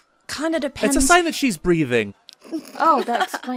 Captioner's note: laughter